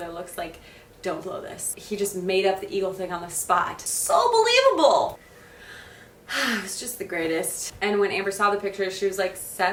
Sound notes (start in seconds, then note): 5.3 exhales